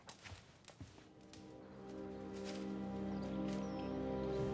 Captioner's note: fire crackling; somber music